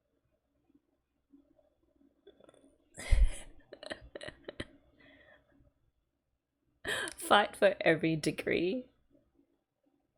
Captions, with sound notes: [laughs] Fight for every degree.